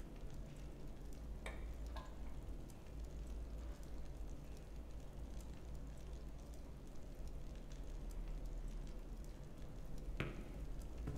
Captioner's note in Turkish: Ateş hışırtısı sesleri